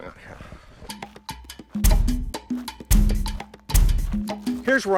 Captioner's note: upbeat drum music; thudding